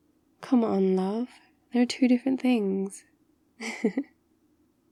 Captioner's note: laughs